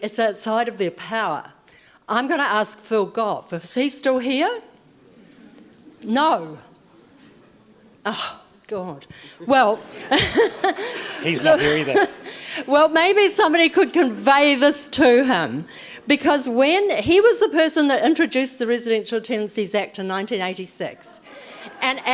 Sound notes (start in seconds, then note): 6.3 audience murmurs; 9.1 gasps; 9.2 audience laughs